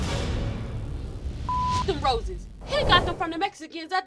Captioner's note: beep